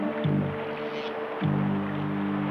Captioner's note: none